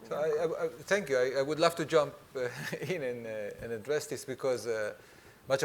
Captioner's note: chuckles